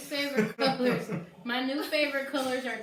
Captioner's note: laughs